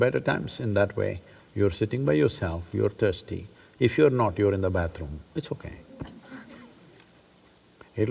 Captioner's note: laughs